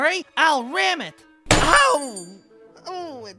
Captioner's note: sound of wood rattling and goat pain